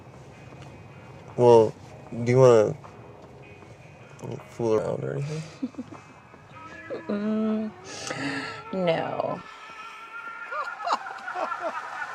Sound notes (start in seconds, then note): 5.3 laughs; 7.1 clown laughing